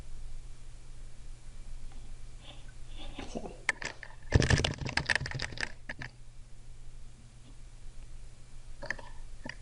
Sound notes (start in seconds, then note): 4.3 typing